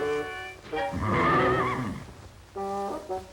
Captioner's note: neigh